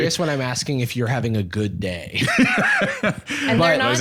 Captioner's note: laughs